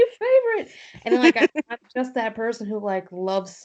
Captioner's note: laughs